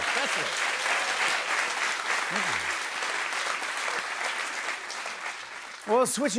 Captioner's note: applause